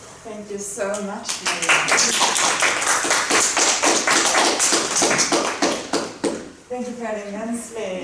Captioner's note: applauds